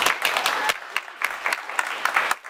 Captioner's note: applause